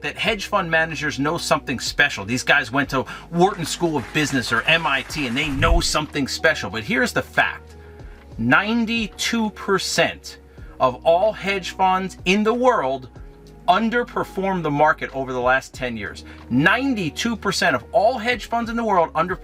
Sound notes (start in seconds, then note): 4.0 audience applauding